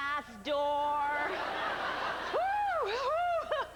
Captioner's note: laughter